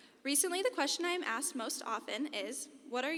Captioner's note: none